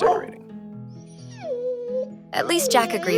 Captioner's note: Jack barking